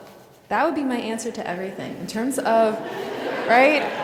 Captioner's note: laughs